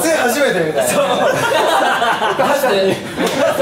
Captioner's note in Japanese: 笑い